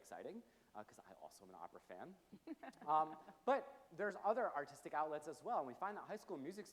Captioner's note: chuckles